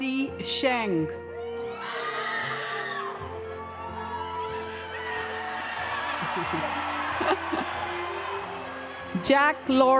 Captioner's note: cheering and applause